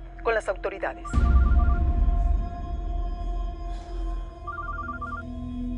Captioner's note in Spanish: Suena el celular